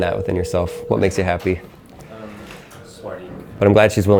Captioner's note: phone ringing